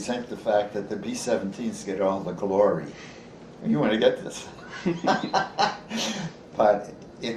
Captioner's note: laughs